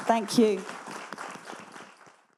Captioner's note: audience applauding